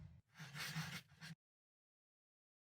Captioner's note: pencil scratching